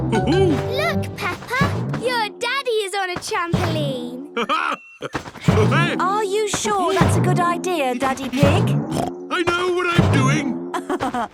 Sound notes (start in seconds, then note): 2.4 laughs; 8.1 snorts; 10.7 laughs